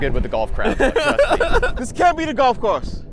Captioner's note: laughs